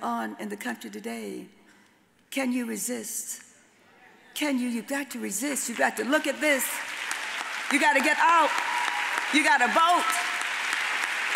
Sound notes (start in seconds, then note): 6.7 audience applauds